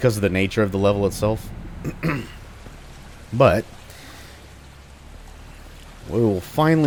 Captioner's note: clears throat